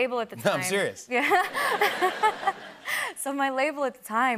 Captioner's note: laughter